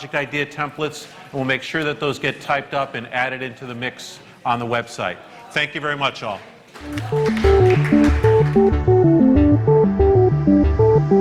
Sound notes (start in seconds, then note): 6.7 applause